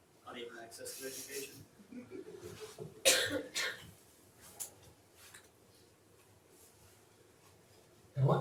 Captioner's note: laughs